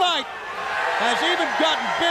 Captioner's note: crowd cheering